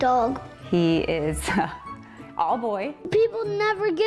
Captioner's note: chuckles